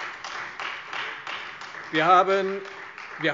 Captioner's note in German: Beifall Freie Demokraten